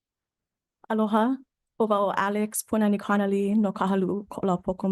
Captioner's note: speaks Hawaiian